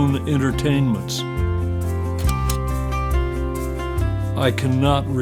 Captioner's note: upbeat guitar music; slide clicks